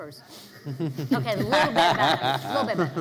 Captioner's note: laughing